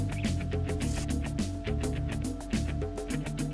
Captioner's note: sound of industrial fans